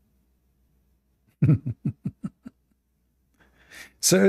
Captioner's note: Ketawa